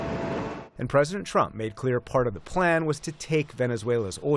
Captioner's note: voice-over